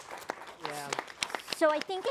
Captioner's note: applause